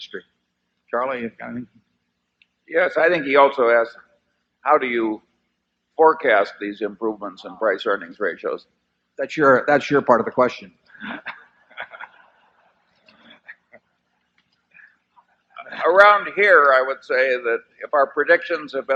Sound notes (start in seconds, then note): 13.0 laughter